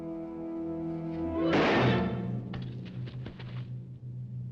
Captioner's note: dramatic music; gun firing